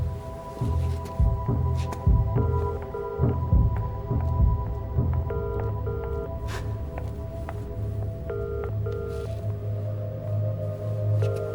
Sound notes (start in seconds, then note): 2.4 phone ringing